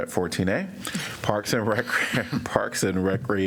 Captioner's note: laughter